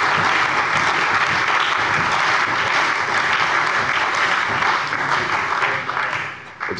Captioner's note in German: Lebhafter Beifall bei der CDU, der SPD und dem BÜNDNIS 90/DIE GRÜNEN